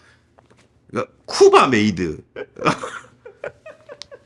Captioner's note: laugh